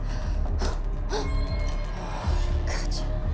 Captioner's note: Kira gasps